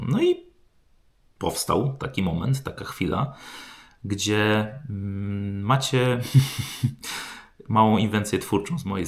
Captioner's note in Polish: westchnienie